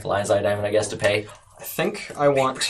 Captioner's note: whisper